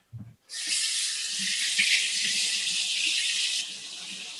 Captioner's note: faucet running